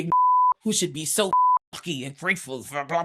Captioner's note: beep